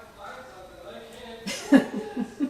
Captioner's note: laughing